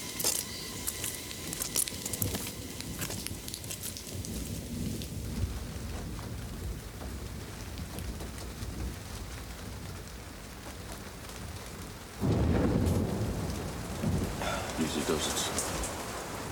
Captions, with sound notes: (rain pattering) (thunder rumbles) - Easy does it, son.